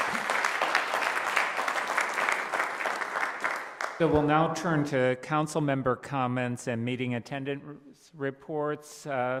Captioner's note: applause